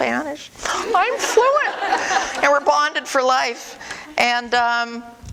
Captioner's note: audience: Laughter